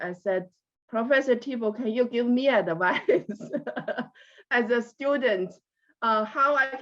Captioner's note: laughs